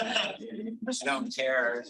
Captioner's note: audience laughing